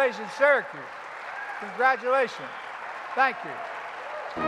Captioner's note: applause